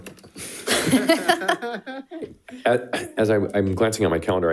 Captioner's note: people laughing